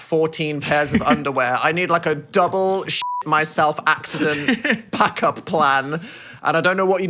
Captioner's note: beep